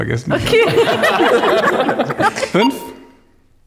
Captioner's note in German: lachen